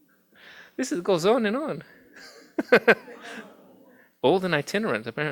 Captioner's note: laughs